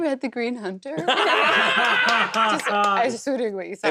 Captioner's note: laughter, claps